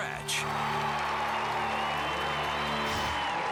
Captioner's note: crowd cheering